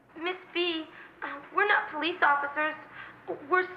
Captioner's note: none